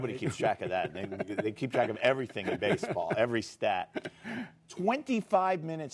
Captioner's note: laughter